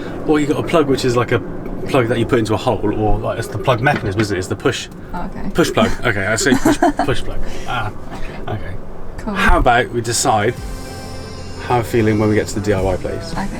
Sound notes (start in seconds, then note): 5.5 laughing